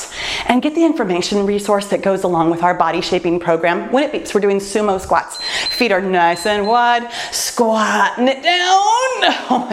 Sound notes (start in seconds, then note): 5.2 timer beeps